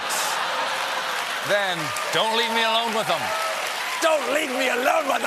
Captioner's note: cheers and applause